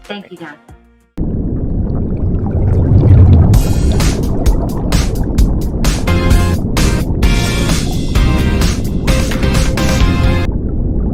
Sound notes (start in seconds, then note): 1.7 water boiling; 3.5 upbeat music